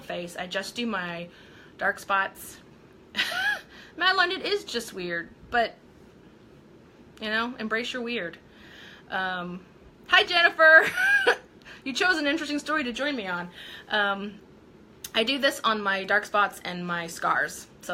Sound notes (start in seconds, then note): 3.2 laughing; 10.9 laughing